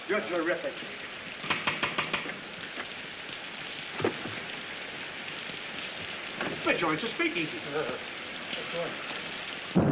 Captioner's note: knocking on door; thunder